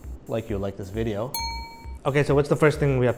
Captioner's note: bell Ring